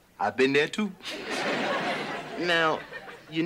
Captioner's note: crowd laughing